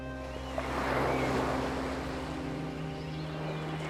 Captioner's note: waves crashing; gentle music